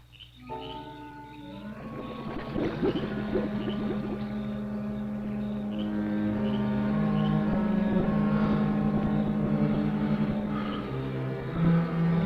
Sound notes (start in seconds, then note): 0.5 tense music continues; 1.8 water bubbling; 2.2 insects chirping